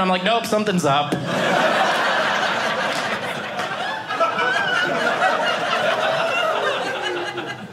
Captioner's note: audience laughing